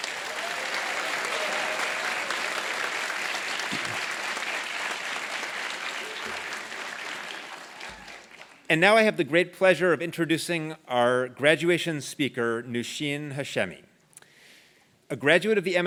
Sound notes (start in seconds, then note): 3.5 applause